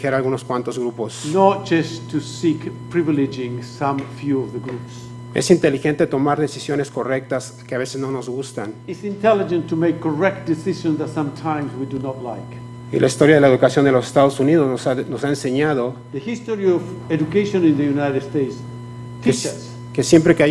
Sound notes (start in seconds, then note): 0.4 speaking foreign language; 5.9 speaking foreign language; 9.3 speaking foreign language; 14.5 speaking foreign language; 16.9 speaking foreign language